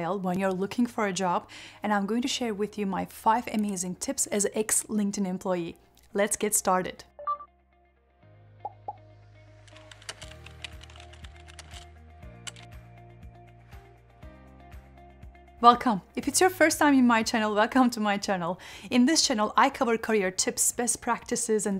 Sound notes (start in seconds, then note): 7.1 upbeat music; 9.7 keyboard keys clicking